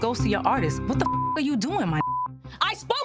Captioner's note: beep